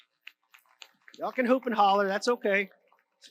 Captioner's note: audience applauds